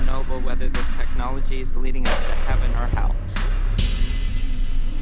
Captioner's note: loud thump